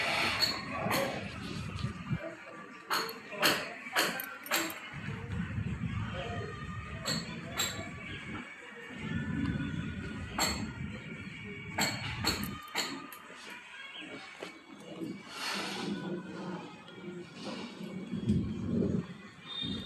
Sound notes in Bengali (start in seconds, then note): 15.2 নাক ডাকা